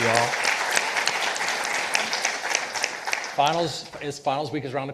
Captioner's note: participants applauding